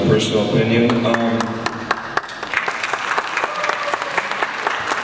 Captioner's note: audience applauds